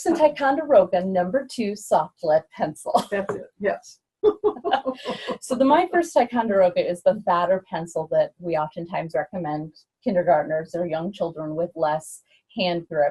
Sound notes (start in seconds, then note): 4.3 laughs